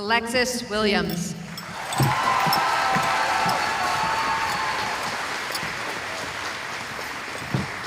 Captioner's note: cheering